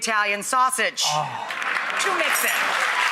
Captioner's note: applause